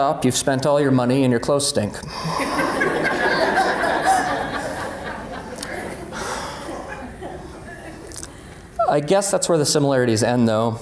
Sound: laughter

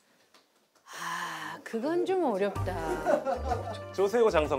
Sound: sigh

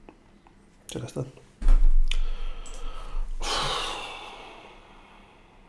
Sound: sigh

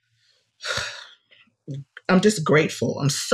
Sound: sighs

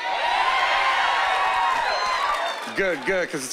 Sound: cheering

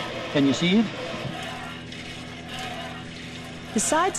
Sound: squirting

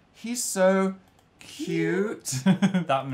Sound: laughs

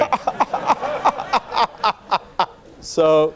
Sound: laughing

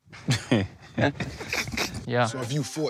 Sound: laughter

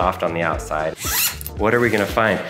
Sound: zipper whizzing

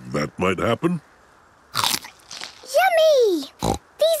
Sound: crunch!; snorting

